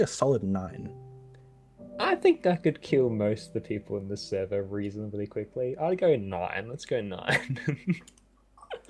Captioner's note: giggle